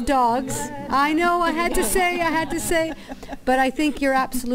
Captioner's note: laughter